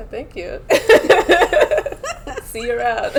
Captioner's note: laughter